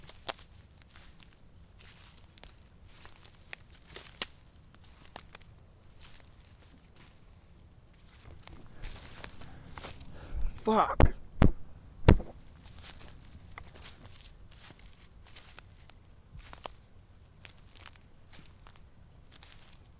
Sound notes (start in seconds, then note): 0.0 insects buzzing; 0.2 underbrush crunching; 12.0 taps camera; 15.0 insects buzzing; 15.0 underbrush crunching